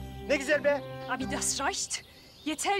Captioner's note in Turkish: Almanca konuşma